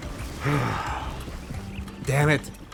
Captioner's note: sigh